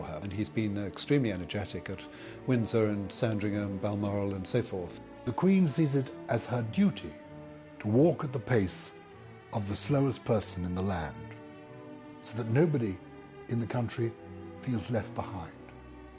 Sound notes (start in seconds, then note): 5.4 voiceover